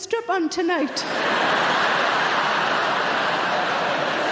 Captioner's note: audience laughing